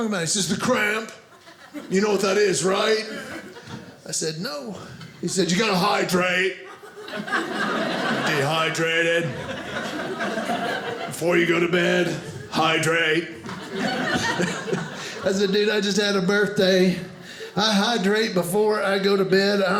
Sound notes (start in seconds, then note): 6.9 audience laughing; 13.7 audience laughing